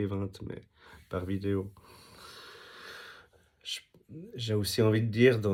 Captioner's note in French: soupir